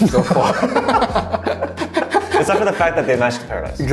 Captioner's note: laughing